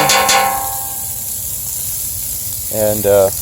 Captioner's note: clangs